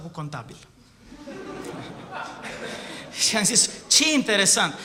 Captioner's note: laughter